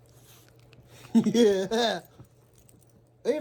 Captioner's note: chuckles